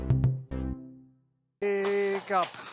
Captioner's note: clapping hands